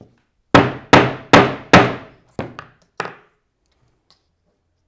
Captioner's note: mallet thudding